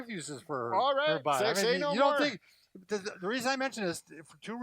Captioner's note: yells